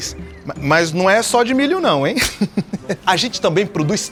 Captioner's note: Chico laughs